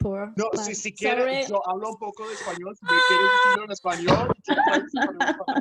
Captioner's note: exclaims; voices laughing over speaking